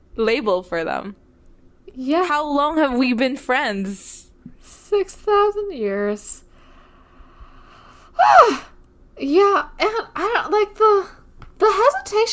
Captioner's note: screams